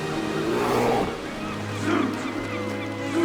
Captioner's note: seals barking